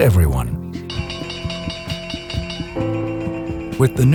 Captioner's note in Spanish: Bell sounds